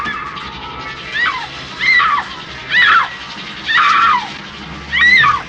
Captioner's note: screaming